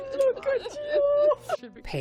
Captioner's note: laughter